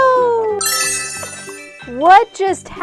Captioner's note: magical chime